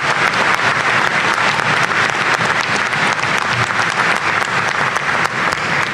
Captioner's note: applause